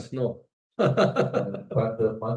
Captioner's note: laughs